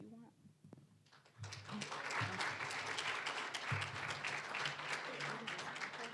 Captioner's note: applause